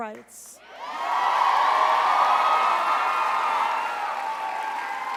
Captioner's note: crowd cheers loudly